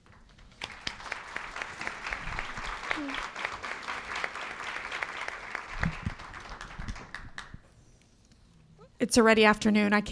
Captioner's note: applause